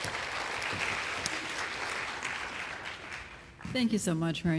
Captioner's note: applause